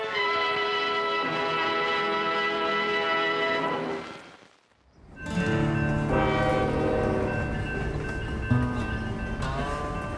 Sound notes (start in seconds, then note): 0.2 music crescendos; 5.1 bells ringing